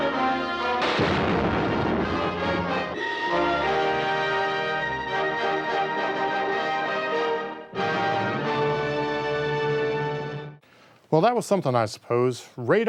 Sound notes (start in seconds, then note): 0.8 gun firing; 2.9 triumphant music